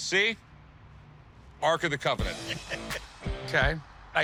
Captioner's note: laughs